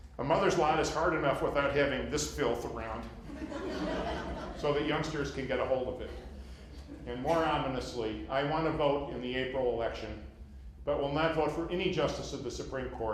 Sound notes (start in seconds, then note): 3.2 laughter